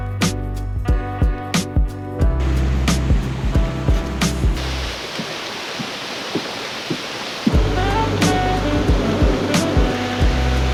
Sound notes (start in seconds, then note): 0.0 light upbeat music; 2.4 water streaming; 7.5 mellow music